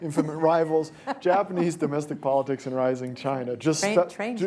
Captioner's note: laughter